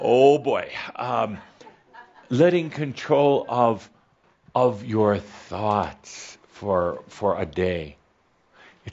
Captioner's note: a few giggles